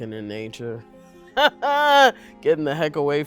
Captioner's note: laughs